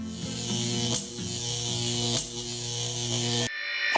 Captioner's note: static buzzing